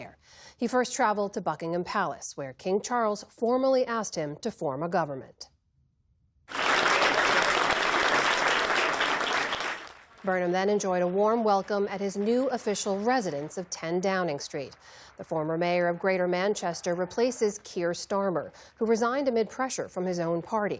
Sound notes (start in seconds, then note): 11.0 applause